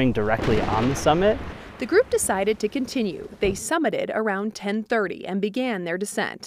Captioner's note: thunder rumbles